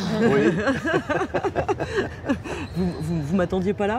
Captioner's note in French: rires